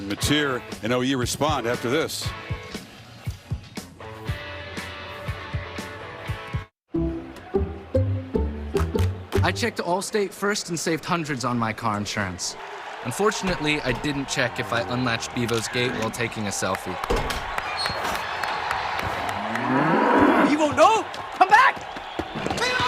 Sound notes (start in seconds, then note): 17.3 crowd cheering